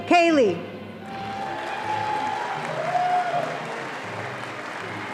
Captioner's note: audience applauding